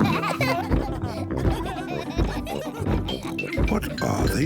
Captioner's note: giggling continues; kids giggling; thumping